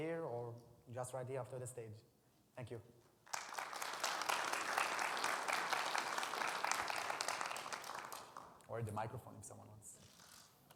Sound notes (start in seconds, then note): 3.2 attendees clapping